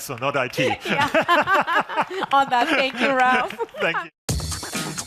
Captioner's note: laughs